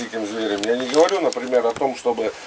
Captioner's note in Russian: none